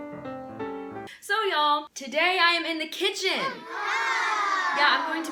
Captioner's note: children "ahhh" sound effect